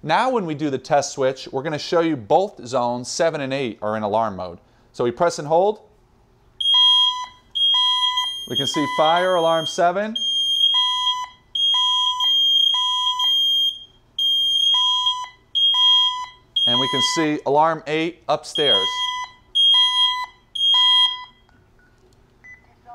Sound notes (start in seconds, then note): 6.6 panel beeps